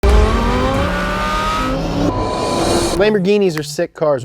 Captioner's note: car engine roaring